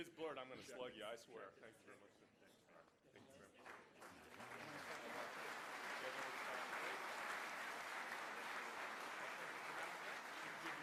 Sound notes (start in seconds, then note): 0.1 voiceover; 3.6 applause